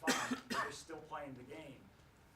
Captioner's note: coughs